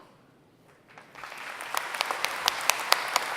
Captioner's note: applause